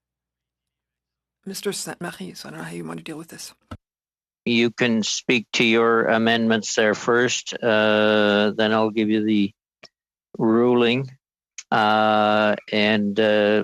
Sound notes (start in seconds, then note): 2.9 speaking French